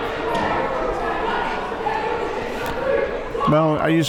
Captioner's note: murmuring